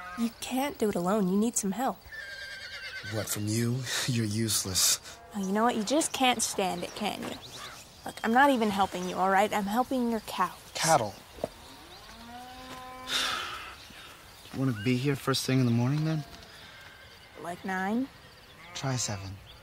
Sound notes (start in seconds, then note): 11.6 cow moos; 12.9 Eric sighs